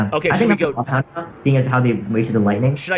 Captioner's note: choppy audio